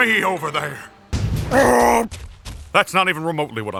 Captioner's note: stampies away